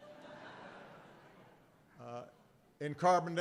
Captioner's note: laughter